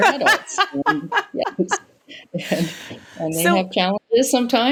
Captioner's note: laughs